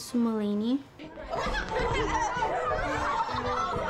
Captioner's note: kids gigglign